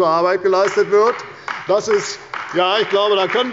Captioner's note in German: Beifall bei der CDU und dem BÜNDNIS 90/DIE GRÜNEN